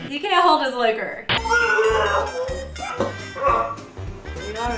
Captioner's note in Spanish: con nauseas